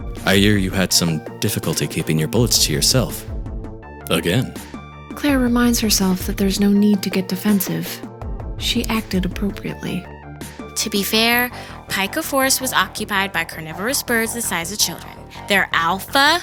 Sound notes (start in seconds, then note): none